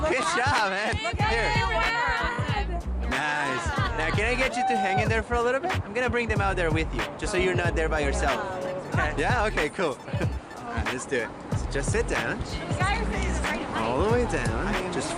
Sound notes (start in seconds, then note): 1.2 people wailing; 9.9 laughs